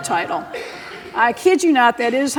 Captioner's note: laughter